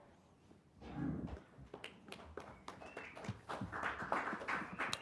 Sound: group clapping

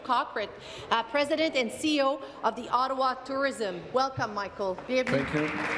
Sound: speaking in French

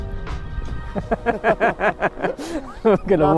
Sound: laughing

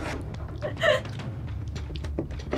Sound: laughs

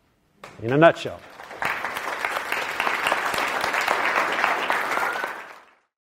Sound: clapping

